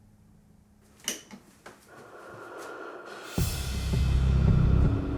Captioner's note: heavy breathing